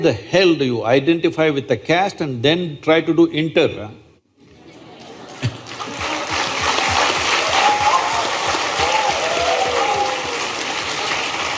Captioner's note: applause/Cheers